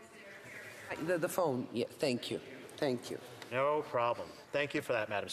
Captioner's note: off mic